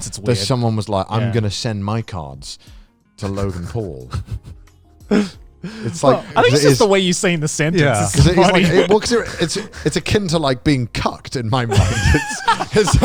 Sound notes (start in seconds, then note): 3.2 laughs; 11.6 all laughing